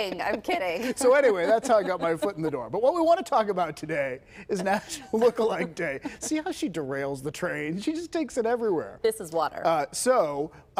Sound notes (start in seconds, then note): 6.7 laughter